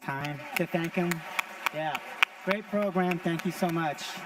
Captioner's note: audience applauding